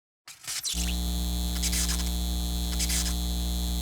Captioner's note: sign humming